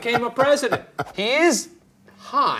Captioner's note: laughing